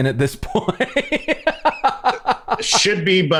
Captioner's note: laughter